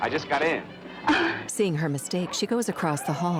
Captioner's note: embarrassed chuckle